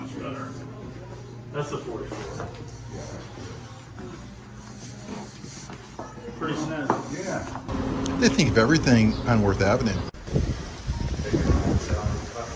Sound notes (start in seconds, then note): 4.6 soft rustling